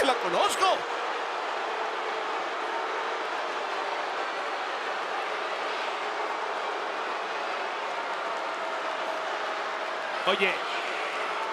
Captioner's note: applause